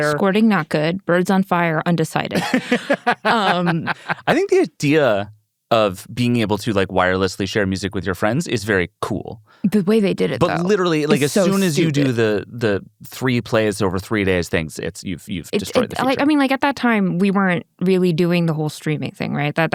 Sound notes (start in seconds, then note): 2.3 laughs